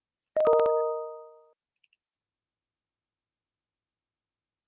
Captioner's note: computer chimes